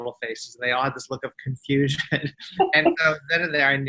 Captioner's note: laughs